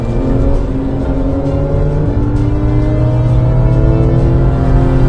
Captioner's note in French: Vrombissement des moteurs